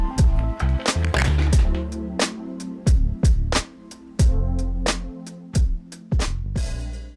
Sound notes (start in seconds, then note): 0.8 noise of a man hitting the floor